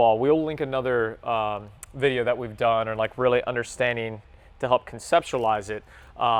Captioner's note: none